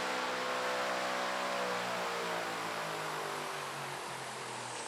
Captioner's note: fan motor slows